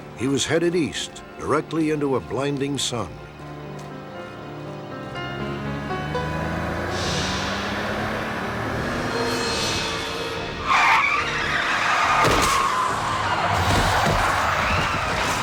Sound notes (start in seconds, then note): 3.1 gentle music; 5.2 engine revving; 10.4 tires screeching; 11.9 thumping